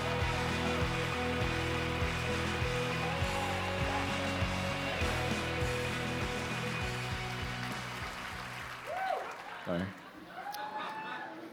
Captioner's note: applause